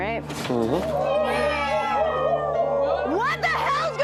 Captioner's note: meowing and howling